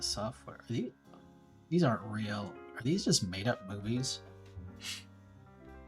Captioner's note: sniff